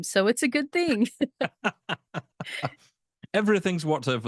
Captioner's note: both laughing